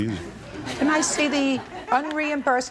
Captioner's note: audience laughs